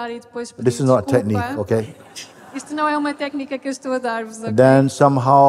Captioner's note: laughter